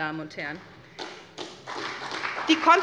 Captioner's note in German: Beifall bei der SPD